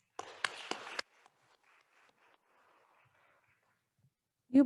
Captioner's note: attendees applauding